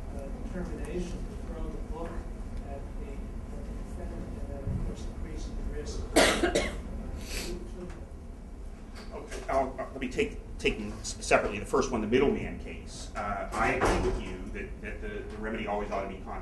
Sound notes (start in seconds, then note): 6.1 coughing